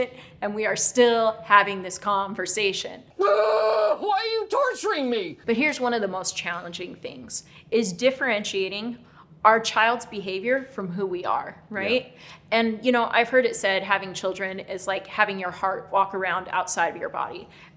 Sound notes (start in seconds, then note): 3.2 screams